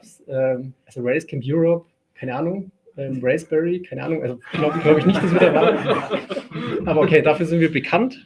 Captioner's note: laugh